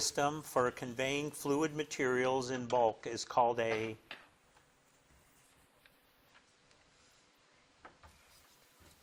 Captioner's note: none